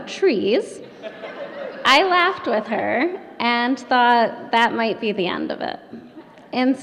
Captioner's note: laughter